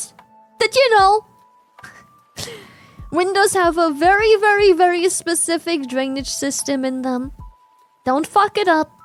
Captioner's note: laughs